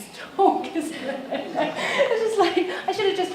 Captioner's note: laughs